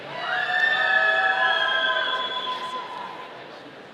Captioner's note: audience cheering